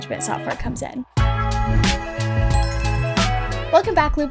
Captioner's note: light upbeat music; intro chime